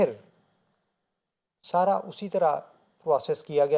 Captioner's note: Arabic